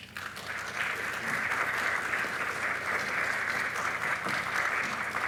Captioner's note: audience applauding